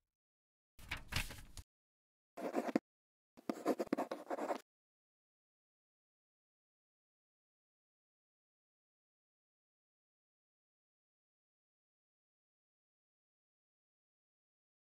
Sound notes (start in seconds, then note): 2.4 quill scratching